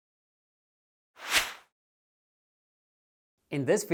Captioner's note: whoosh